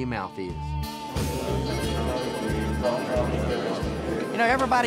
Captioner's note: crowd chattering